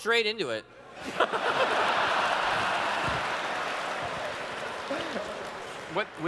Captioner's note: laughter